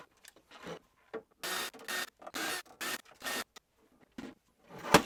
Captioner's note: power drill whirring